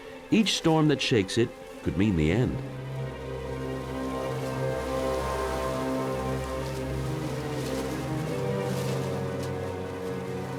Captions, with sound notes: Each storm that shakes it could mean the end. [suspenseful music] [wind lashing trees]